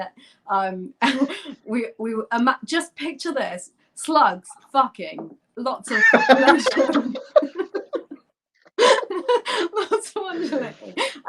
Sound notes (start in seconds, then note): 8.4 laughter